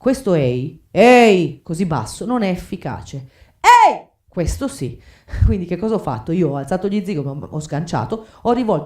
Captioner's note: screams